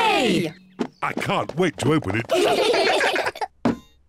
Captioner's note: all giggle